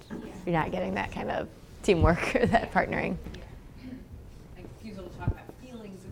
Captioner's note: laugh